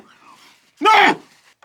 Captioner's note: yells